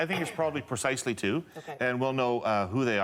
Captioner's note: laughter